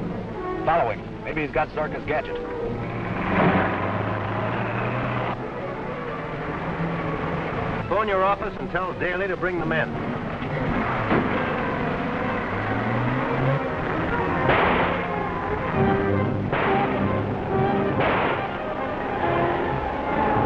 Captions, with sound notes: - Follow him, maybe he's got Zorka's gadget. (car rumbling) (tense music) - Phone your office and tell Daley to bring the men. (car rumbling) (tense music) (gun firing)